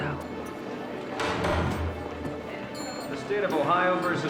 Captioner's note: gavel bangs